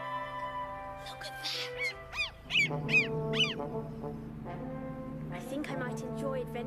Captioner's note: bird squawking